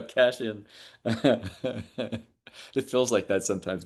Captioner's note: laughs